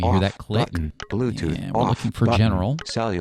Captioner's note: electronic Voice